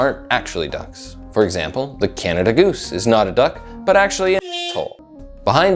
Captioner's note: honk